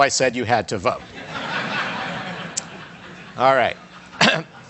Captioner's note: audience laughs